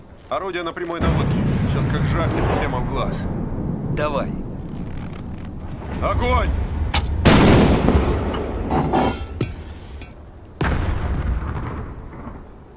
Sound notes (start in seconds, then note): 7.2 sound of a gunshot; 8.6 sound of cartridge case; 10.6 sound of explosion